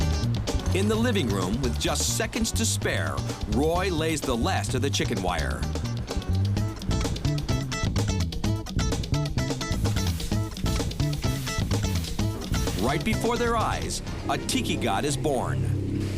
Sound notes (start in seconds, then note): 6.0 funky jazz music; 9.5 paint spray sound